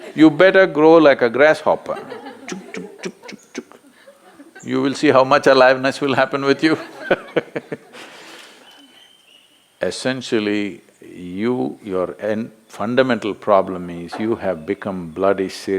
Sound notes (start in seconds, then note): 8.6 laughs